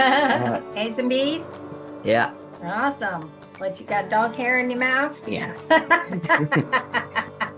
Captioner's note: chuckle